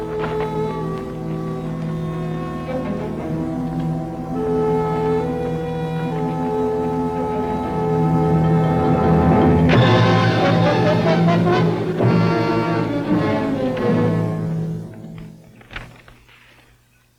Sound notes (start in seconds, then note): 9.6 box thudding; 12.1 dramatic music